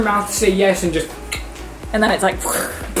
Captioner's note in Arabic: ينقر على لسانه